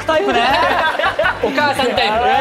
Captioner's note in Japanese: 笑い